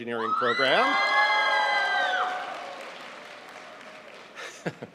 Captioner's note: audience cheering